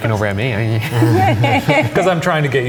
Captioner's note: laughing